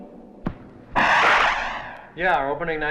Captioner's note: air whooshes